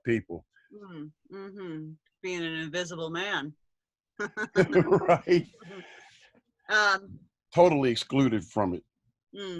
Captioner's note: laughter